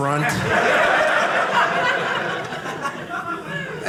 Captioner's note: audience laughing